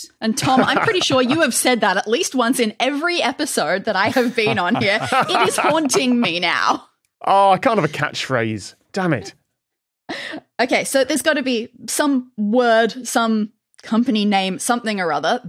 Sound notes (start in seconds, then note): 4.0 laughs